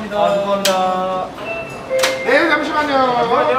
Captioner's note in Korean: 띵동